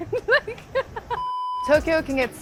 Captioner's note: laughs; production beeping